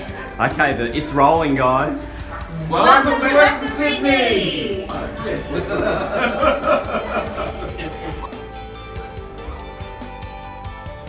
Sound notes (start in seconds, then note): 5.0 laughter; 7.1 guitar music